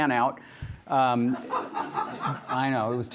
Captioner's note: laughter